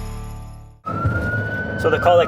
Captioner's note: siren